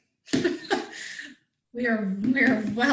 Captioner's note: chuckles